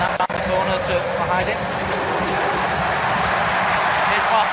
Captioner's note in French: cris des supporters